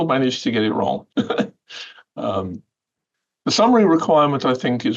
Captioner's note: laughter